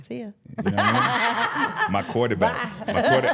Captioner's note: laughing